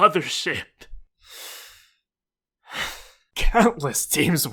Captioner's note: exhale